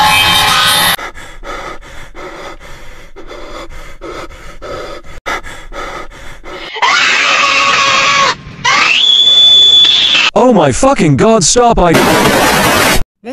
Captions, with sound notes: *HEAVY BREATHING* AAAAAAAAAAEEEEEEEEEEHHHHHHHH AAAAAAAAAAAAAAAAAAAAAAAAAAAAAAAAAAAAAAAAAAAAAAAAAAAAAAAAAAAAAAAAAAAAAAAAAAAAAAAAAAAAAAAAAAAAAAAAAAAAAAAAAAAAAAAAAAAAAAAAAAAAAAAAAA OH MY FUCKING GOD STOP I- EIYJTGWEUIFYFHGO28QYUIFQ2G3F8OIQU23FYG